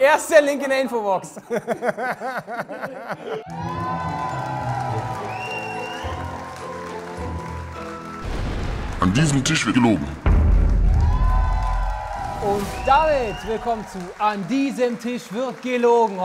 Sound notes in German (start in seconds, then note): 1.4 Lachen; 3.1 Jubel; 3.4 Schelmische Musik; 10.0 Dröhnen; 11.1 Jubel